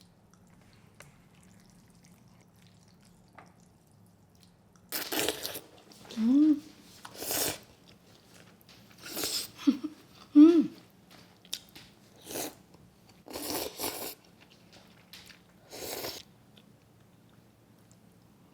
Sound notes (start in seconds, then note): 5.4 slurping